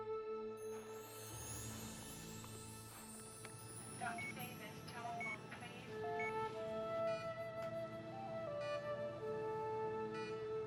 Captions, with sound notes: [PA System] Dr. Davis, telephone please.